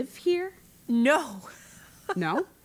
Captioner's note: laugh